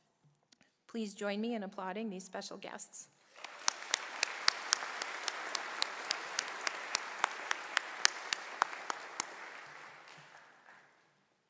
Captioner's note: applause